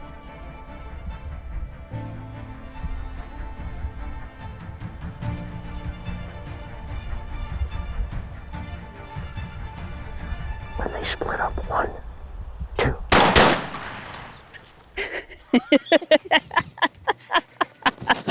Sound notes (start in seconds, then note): 12.8 gunshots; 14.9 laughter